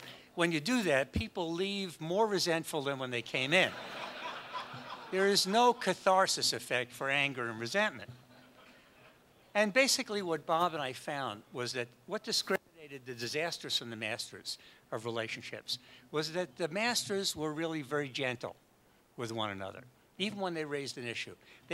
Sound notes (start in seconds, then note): 3.6 audience laughs